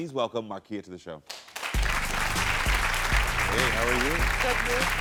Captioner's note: audience applauds; upbeat music